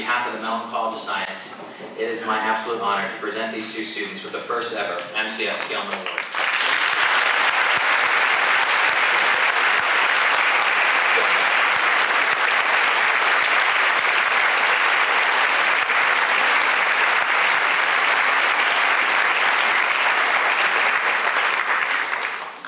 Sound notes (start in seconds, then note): 6.4 applause